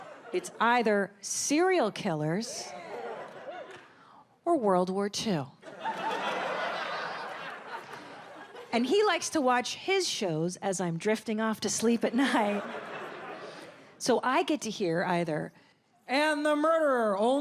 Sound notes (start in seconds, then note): 5.7 audience laughs